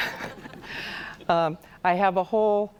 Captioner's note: audience laughs; laughs